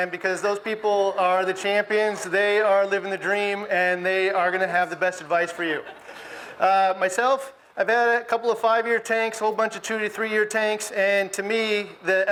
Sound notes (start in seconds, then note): 5.4 audience laughs